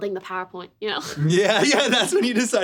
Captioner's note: laughter